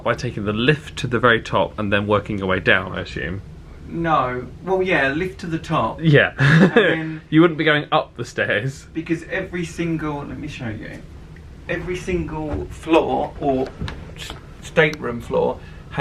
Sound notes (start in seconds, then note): 6.4 laughs